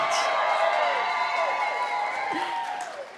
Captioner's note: cheering